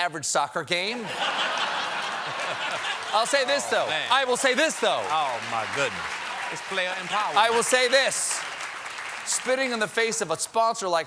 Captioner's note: laughter